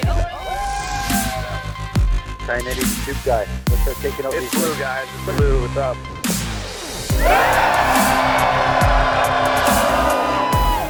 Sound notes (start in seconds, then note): 0.4 Cheering; 2.2 radio chatter; 7.1 loud cheering